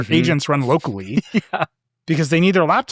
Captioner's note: laughing